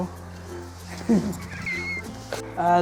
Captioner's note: both laugh